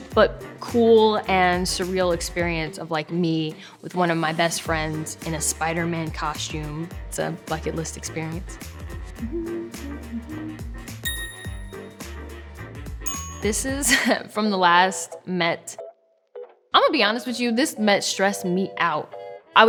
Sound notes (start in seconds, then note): 8.9 upbeat music; 11.1 phone dinging